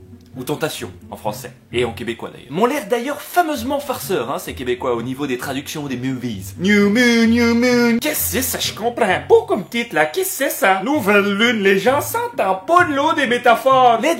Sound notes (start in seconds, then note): 6.5 heavy Quebecois accent